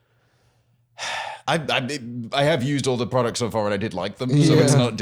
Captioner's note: sighs